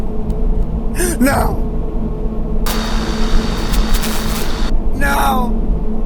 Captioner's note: scary static